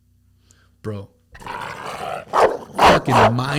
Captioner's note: dog growling and barking